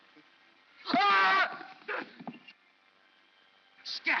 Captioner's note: Stan screams